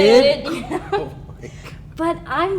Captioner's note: they laugh